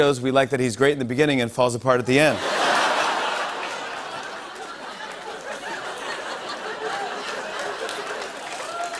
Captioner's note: laughter; applause